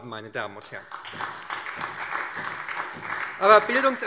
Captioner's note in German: Beifall SPD